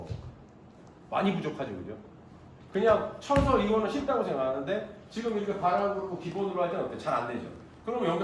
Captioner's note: stomping